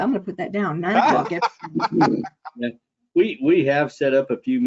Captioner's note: laughing